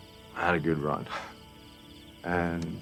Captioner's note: chuckles